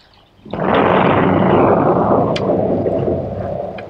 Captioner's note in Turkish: Gök gürlemesi